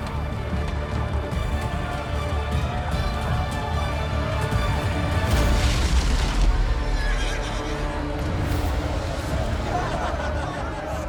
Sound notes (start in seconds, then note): 0.1 adventure music; 7.0 horse whinnies; 9.2 people laughing